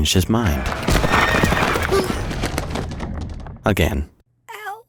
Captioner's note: horses trotting; soldiers shouting